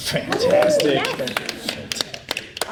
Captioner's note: all applaud